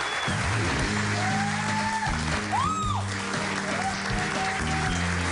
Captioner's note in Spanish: aplausos